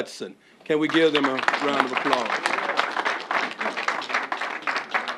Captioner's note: applause